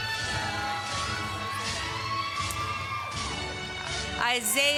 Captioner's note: applause